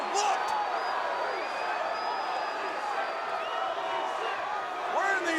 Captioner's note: crowd chants "Holy shit"